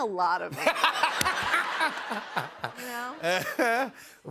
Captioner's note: laughter